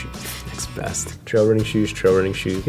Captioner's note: scoffs